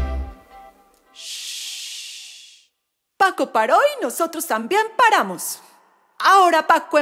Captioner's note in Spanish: Shhhh